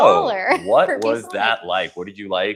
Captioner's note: chuckling